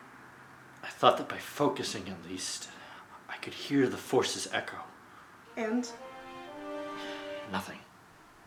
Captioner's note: sighs